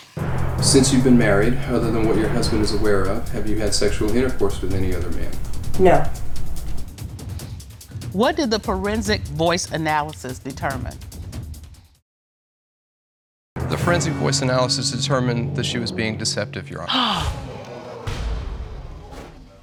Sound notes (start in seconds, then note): 0.1 dramatic music playing; 16.9 all gasp